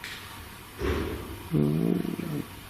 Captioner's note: bang